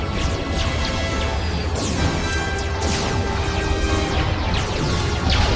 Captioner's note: ongoing sound of battle